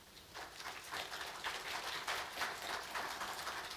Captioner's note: applause